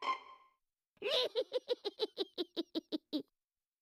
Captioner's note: cackling